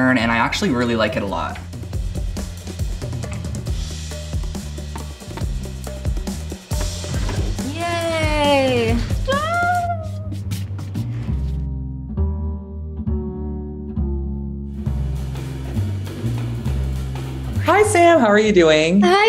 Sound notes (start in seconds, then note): 1.9 upbeat music; 5.2 hammer knocking wood; 9.2 squealing with excitement; 11.3 jaunty music